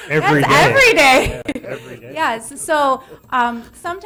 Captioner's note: laughing